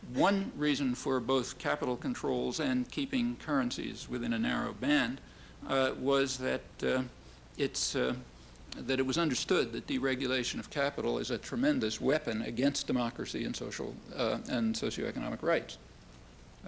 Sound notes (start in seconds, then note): none